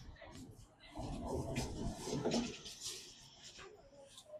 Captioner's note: crowd noise